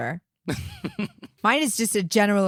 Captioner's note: giggling